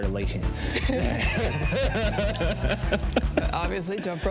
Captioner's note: both laugh